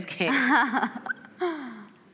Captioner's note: laughs